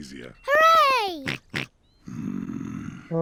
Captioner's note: snorts